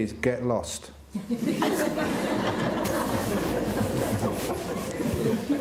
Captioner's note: laughing